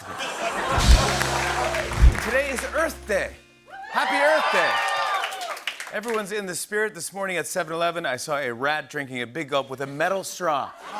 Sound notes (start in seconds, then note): 0.0 laughter; 3.7 cheers and applause